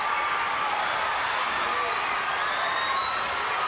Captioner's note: crowd cheers